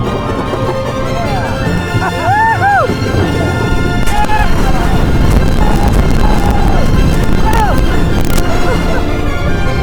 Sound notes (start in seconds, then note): 2.0 screams